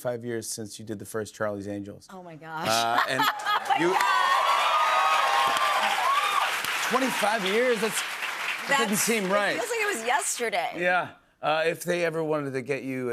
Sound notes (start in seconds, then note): 2.6 laughs; 3.1 cheers and applause